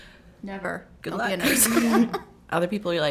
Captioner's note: all chuckle